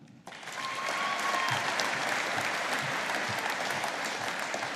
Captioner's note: audience applauding